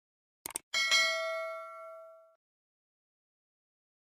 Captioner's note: bell